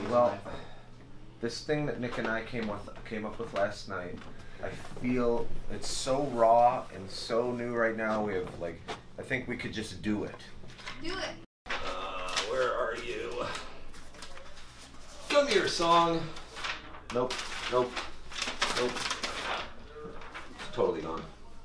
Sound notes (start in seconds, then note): 14.2 flipping pages